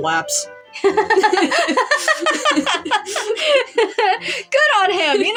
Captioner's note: hearty Laugh; giggling